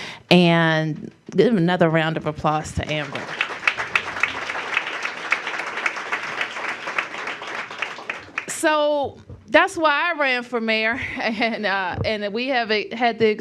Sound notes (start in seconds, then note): 5.4 applause